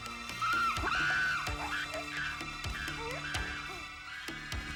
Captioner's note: animals squealing